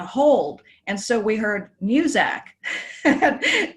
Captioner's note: giggles